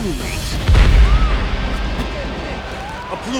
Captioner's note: explosion